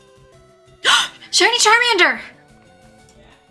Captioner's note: gasps